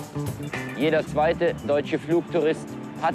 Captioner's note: male reporter speaking German over the TV